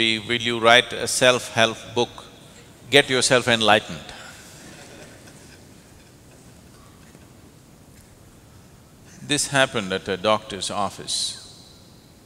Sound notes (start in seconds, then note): 4.6 laughter